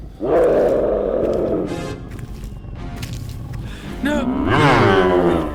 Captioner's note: riverbeast roars